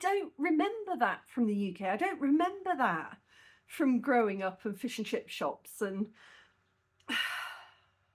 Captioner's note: sigh